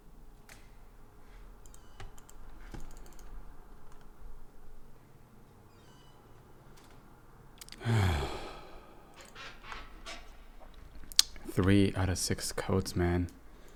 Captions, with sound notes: *gate opens* *lets out a sigh* Three out of six codes, man.